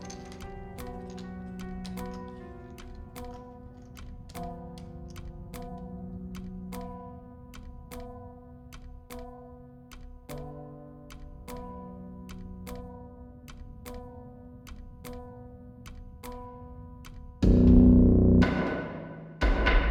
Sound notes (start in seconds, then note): 4.3 ticking